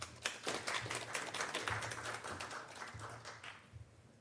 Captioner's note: applause